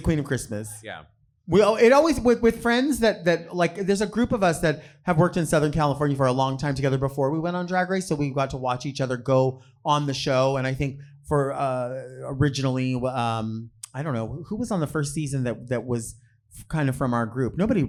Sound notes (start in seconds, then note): none